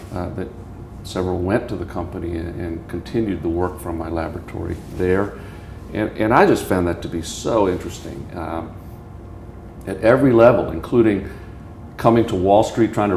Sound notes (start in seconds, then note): none